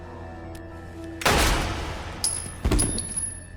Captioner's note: gunshot